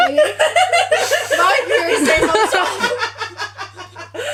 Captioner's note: laughter continues